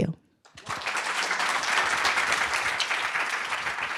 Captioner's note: applause